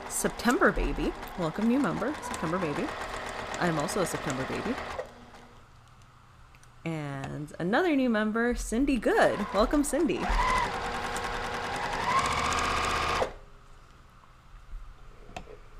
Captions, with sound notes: "September Baby." Welcome new member, September Baby. I'm also a September baby. And another new member, Cindy Good Welcome Cindy. (sewing machine whirrs)